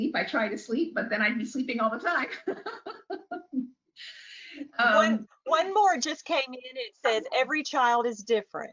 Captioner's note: laughs